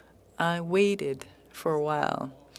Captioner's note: speaking French